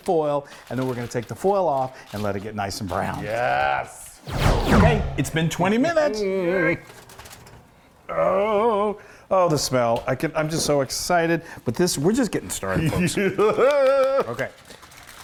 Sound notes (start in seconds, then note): 4.2 laser sounds; 6.0 anticipation noises; 13.4 excited noise and clapping